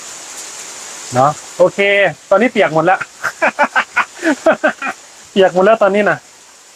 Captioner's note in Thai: เสียงหัวเราะ